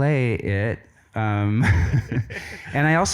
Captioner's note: laughs